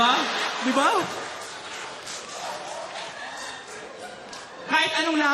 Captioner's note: laughter